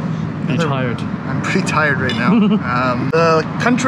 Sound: laughter

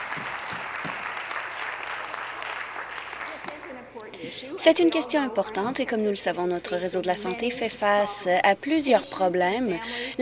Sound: applause

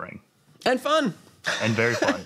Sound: laughs

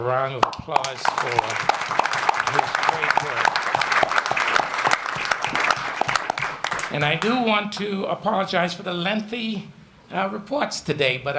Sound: applause

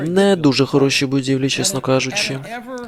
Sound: audience laughs

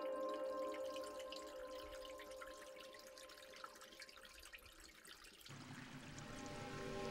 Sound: water dripping

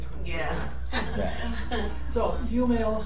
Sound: laughing

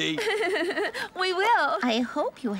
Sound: chuckles

